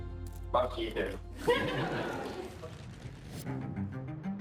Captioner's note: laughing; upbeat music